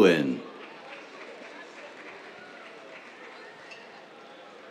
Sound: applause

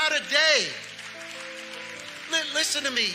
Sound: congregation cheering and clapping

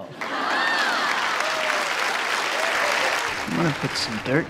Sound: audience claps

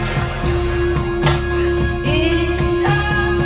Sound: slap

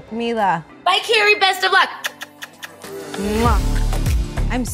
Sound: kissing

